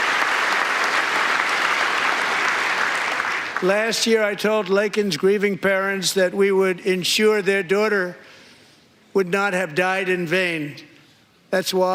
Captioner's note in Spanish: aplausos